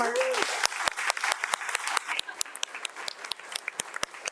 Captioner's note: audience applauds